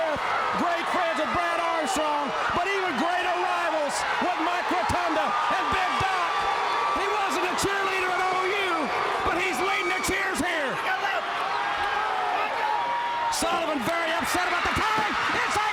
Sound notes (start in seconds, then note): 2.4 crowd chatter; 8.5 crowd cheering